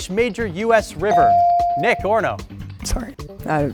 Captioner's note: bell sounding